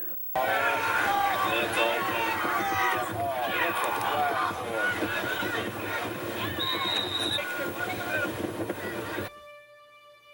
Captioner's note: football crowd on the tv